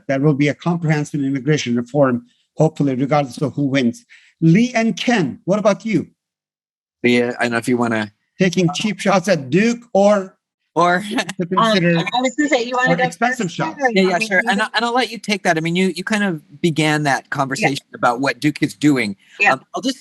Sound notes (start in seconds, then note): 11.1 laughs